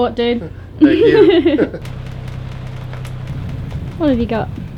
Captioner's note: laughing together